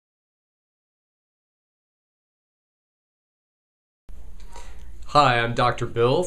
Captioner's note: silent